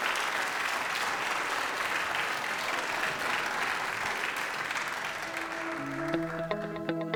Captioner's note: applause